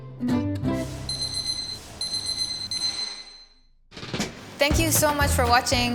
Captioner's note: kitchen timer beeps